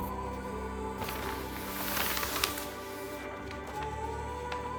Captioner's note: paper rustling